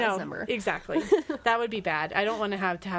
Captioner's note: laughs